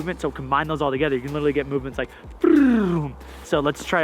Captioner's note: flutters tongue